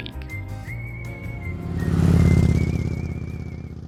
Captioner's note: bike roaring